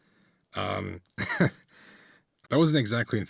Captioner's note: laugh